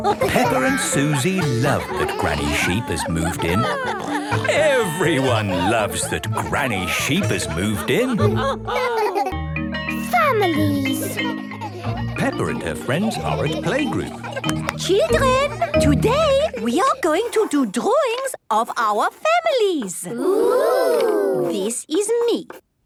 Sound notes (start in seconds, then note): 0.0 laughing; 8.5 laughter; 14.4 clapping